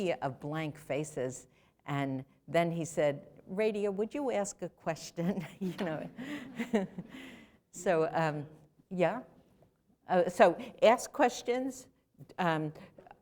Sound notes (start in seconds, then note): 5.3 laughter